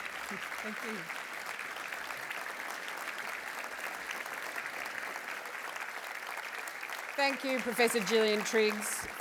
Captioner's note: applause